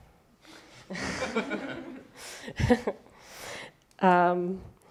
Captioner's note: laughter